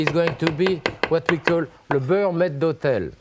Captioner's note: speaks French